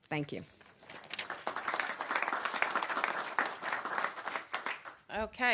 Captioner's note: applause